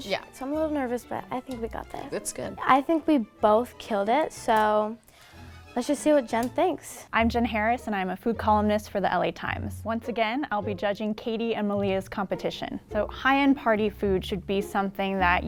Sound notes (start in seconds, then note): none